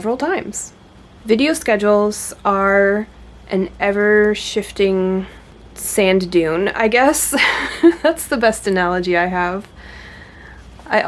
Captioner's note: laughs